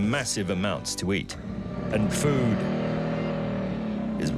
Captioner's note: goanna bellowing